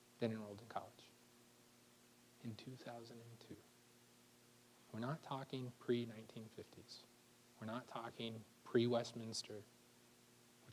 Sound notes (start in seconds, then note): none